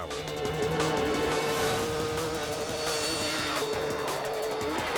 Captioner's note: motor revving